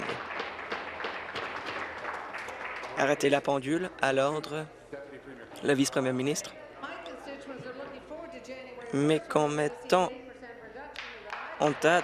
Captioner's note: applause